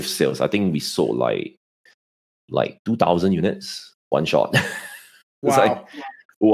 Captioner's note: chuckles